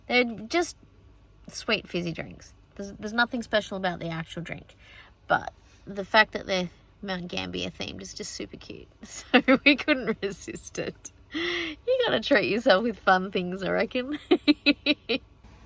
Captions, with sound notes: They're just sweet, fizzy drinks. There's - there's nothing special about the actual drink, but the fact that they're Mount Gambier themed is just super cute, [giggling] so we couldn't resist it. You gotta treat yourself with fun things, I reckon. [giggles]